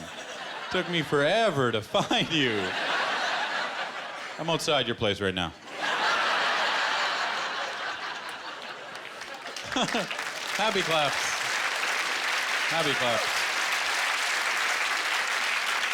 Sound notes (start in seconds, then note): 5.6 laughter; 9.3 applause